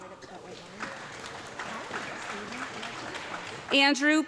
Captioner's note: audience clapping